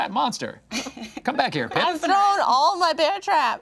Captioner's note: group laughing